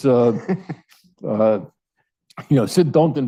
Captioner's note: laughs